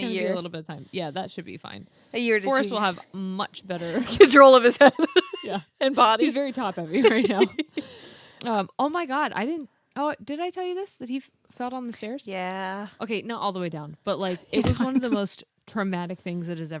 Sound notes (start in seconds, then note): 4.7 laughs